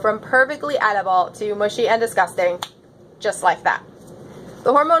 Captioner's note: snap